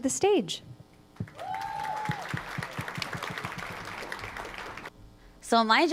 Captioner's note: applause